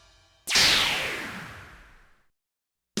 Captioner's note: shwoosh!